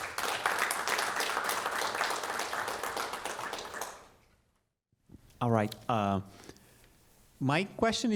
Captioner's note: applause